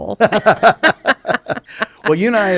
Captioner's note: both laugh